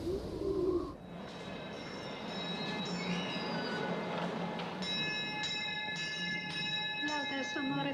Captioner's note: bell ringing; praying in Latin